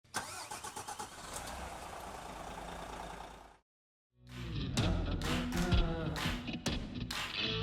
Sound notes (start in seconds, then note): 0.1 engine revving; 4.3 soft rock music